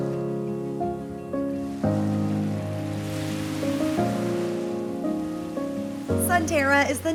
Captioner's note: waves crashing on beach